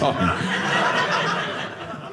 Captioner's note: audience laughing